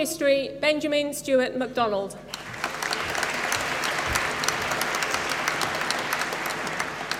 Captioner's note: applause